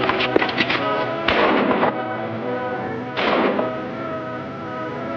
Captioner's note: gunfire pops